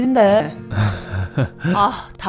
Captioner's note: nervous Laughter